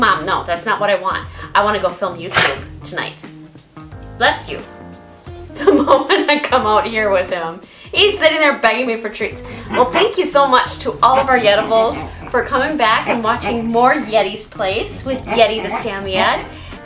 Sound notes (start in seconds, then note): 2.2 Yeti sneezed